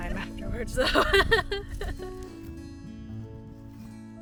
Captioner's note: laughs